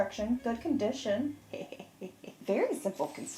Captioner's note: chuckling